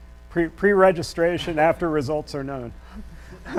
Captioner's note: laughs